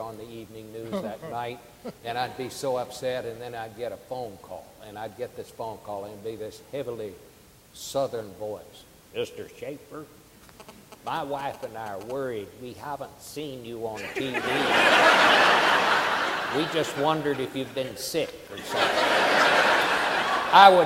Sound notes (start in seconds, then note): 14.0 audience laughing